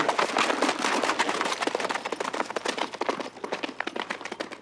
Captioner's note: hooves thudding